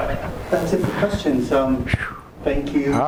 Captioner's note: laughs; voiceover